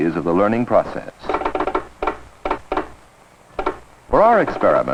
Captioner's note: pecking